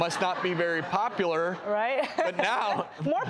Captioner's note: laughs